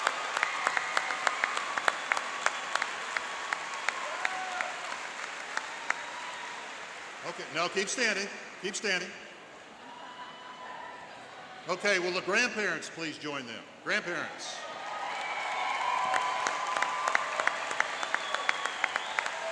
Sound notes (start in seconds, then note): 9.6 cheering and laughing; 14.5 cheering and applauding